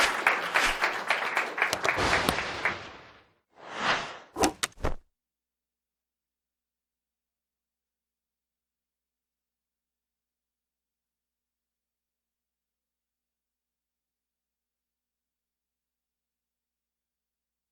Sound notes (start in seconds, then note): 0.1 whooshing; 1.9 light clicks; 1.9 thunder claps; 3.6 whooshing